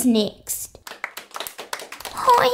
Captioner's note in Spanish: Aplausos